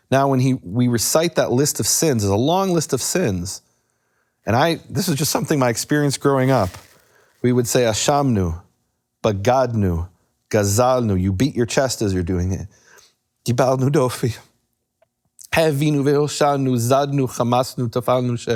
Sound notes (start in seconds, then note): 8.0 speaks in foreign language; 9.9 speaking in foreign language; 13.2 speaking in foreign language